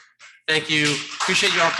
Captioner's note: audience clapping